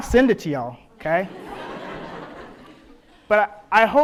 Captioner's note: audience laughs